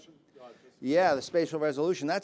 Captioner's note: speaking faintly